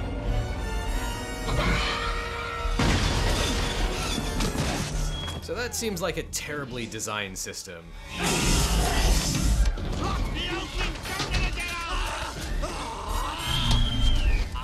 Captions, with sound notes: (dinosaur growls) - So that seems like a terribly designed system. (yells) - Lock the openings, don't let them get out. (yelling)